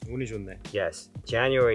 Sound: speaking in Korean

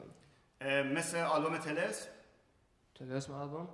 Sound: speaking in farsi

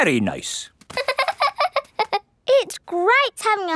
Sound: laughing

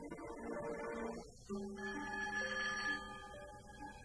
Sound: phone rings

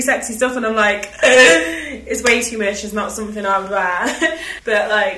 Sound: laughs

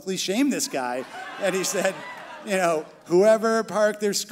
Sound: crowd laughing

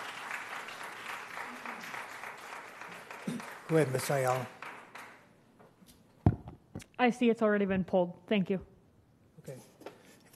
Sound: applause

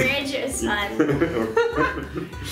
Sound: laughing

